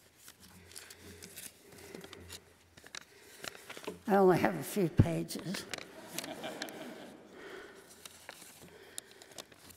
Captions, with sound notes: I only have a few pages. (laughing)